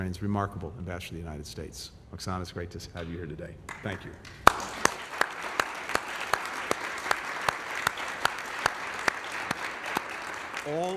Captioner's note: applause